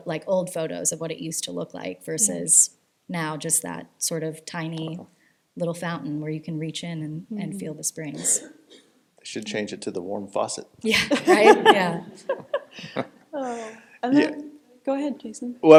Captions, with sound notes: like old photos of what it used to look like versus now just that sort of tiny little fountain where you can reach in and feel the springs. They should change it to the warm faucet. Yeah, right? Yeah. (chuckles) Oh. -And then- -Yeah. Go ahead, Jason.